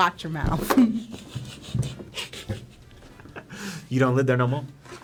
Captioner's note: snickers